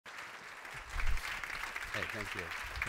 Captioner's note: applause